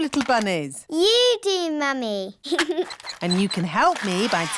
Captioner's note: giggles